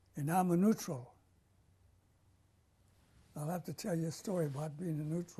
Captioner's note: pauses for 3 seconds